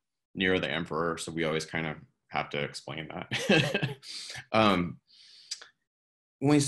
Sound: chuckles

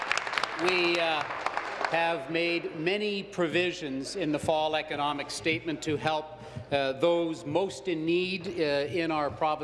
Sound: applause

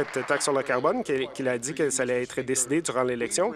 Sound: applause

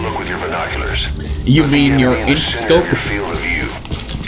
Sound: mocking Ocelot

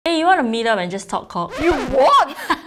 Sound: record scratches; laughs

